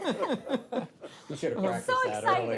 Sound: all laugh

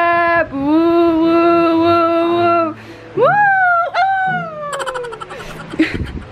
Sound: making silly noises

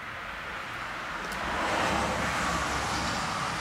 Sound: there is always car noise

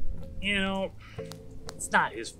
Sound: sigh

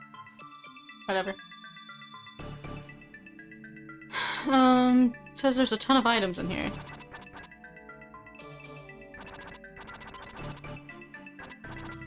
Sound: sigh

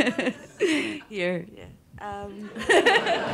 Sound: laughs

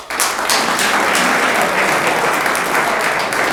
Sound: room applauds

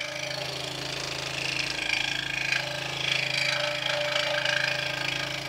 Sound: saw buzzing

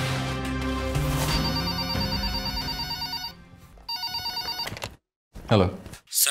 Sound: phone rings

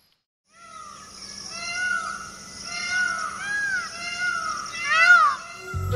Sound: peacocks’ screaming sound

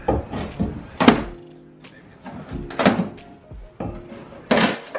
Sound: wooden walls banging

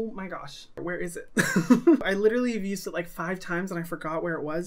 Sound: laughs

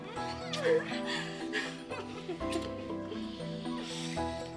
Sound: giggling

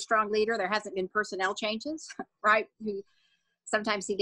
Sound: scoffs

